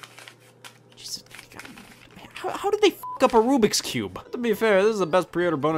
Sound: cube clicking and cracking; beeps

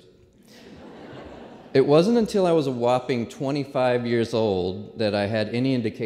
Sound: laughter

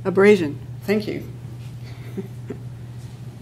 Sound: laughs

